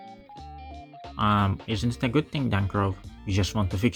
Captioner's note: nerd voice